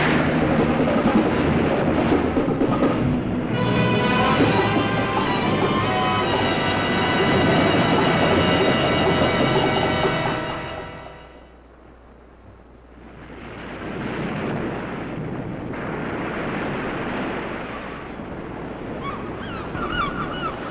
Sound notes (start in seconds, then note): 0.0 water splashing; 0.2 dramatic music; 7.1 waves roaring; 13.0 waves crashing; 17.4 birds squawking